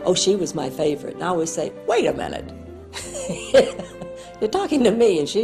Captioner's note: laughs